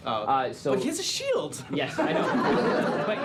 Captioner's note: laughter